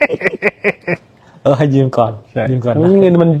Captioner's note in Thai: เสียงหัวเราะ